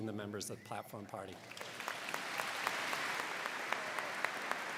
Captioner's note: crowd clapping